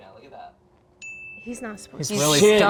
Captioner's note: graphic dings